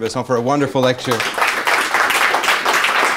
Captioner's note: applause